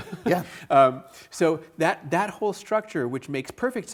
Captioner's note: laughs